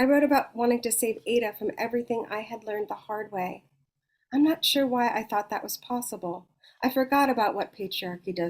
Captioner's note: none